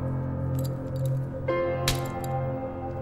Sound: buckle clicking

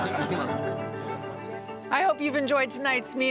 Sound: laughter

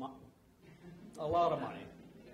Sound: audience laughs

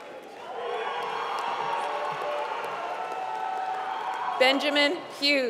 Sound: applause

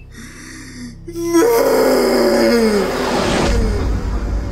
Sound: screams

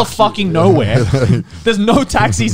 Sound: laughing

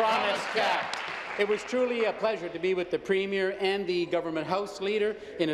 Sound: applause

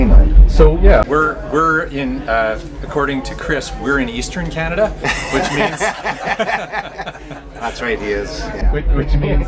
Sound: laughter

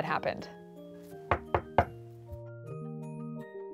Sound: knocks rapping

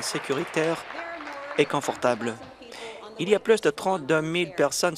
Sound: applause

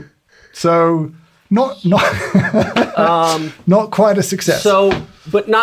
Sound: laughs

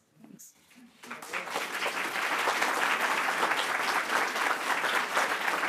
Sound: audience applauding

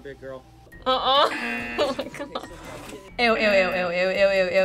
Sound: buzzer rings

